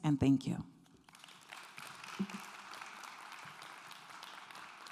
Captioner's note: clapping